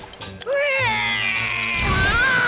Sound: crying

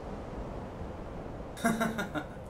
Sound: laughter

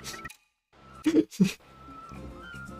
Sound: chortle

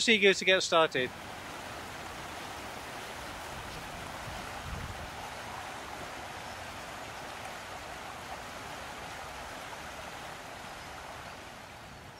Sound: running Water

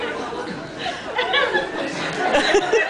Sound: laughs; scattered laughs

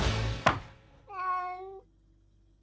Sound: meow

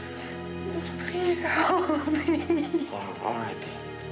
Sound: crying

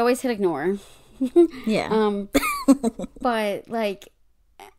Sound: laughs

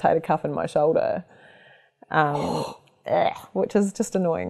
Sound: groans

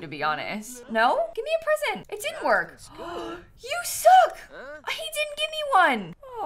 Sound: gasps

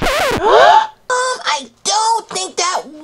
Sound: record scratch; all gasp

